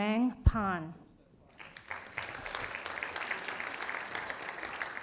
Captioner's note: audience applauding